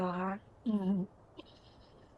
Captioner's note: chuckles